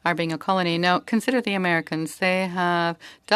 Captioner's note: speaking French